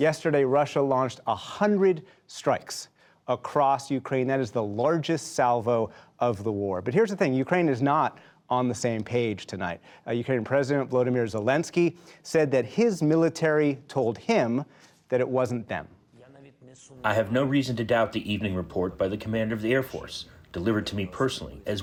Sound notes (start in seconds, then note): 16.9 through translator